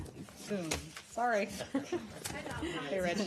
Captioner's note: laughter